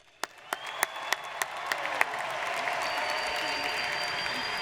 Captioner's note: audience cheers